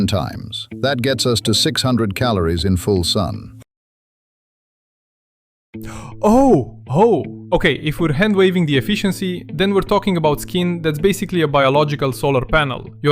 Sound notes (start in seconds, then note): 5.8 gasps; 6.1 excited